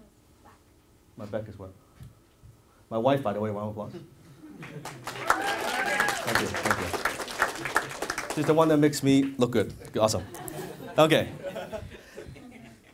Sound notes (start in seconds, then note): 4.6 applause; 11.2 laughing